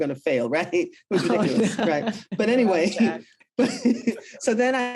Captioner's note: both laugh